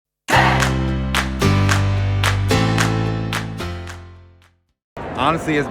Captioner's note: upbeat music; hands clapping